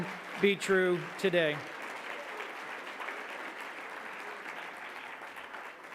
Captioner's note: audience clapping